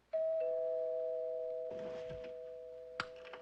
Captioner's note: Kapı zili zil